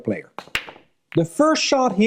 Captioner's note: balls clinking